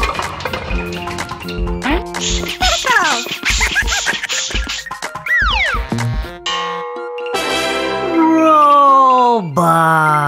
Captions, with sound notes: Tickles. (Gigglebot laughs) (tada fanfare) - Roll bar.